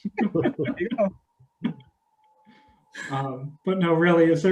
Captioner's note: all laughing